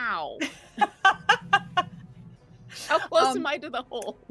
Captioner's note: laughing